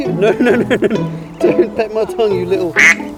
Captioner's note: quack